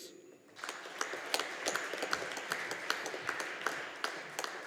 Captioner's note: audience applauding